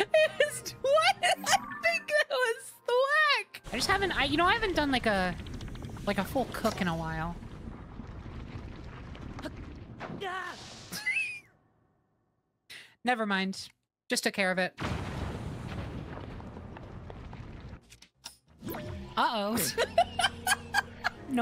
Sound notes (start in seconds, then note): 0.0 laughter; 10.8 wheeze; 19.5 laughter